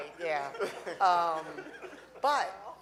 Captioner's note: audience laughing